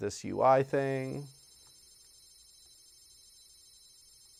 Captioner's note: interface rings